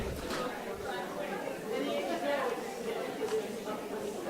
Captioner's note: audience chattering